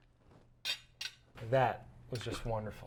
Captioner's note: cutlery clicking